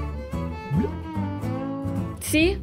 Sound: water bubbles

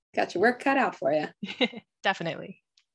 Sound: chuckles

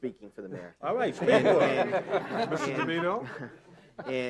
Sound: all laughing

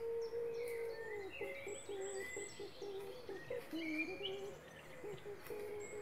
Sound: humming to the tune

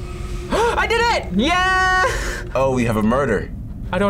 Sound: gasps

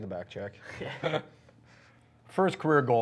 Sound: laughing

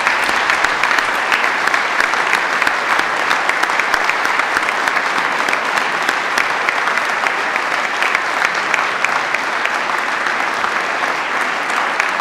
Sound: applause

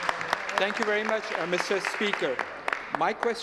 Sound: some Applause

